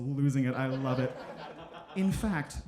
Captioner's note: audience laughing